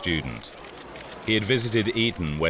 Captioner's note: camera flashes snapping